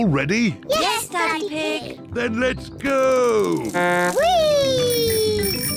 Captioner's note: blows horn